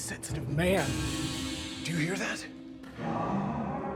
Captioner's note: metal rattles